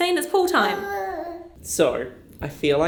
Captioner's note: baby mumbling